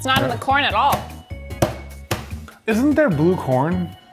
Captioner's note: hammer tapping